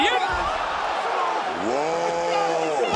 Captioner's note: crowd cheers